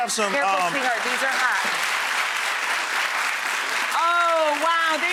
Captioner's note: crowd clapping